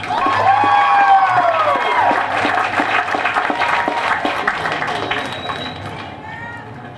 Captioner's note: applause